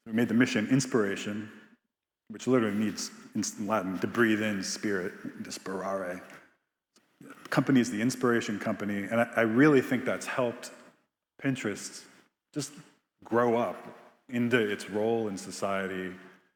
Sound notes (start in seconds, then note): 6.0 speaks in Latin